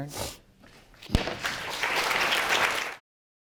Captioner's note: applause